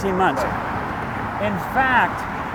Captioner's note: car honk